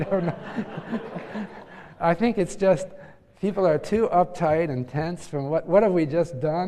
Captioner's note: laugh